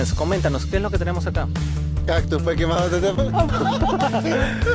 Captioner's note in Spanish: risas